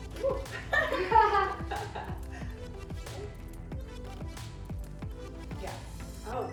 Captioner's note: laughing